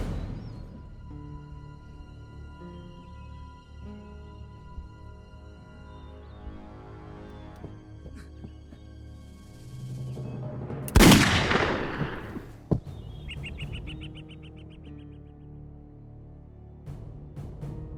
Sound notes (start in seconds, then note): 0.2 tense somber music; 10.9 gunshot blasts; 13.3 tense somber music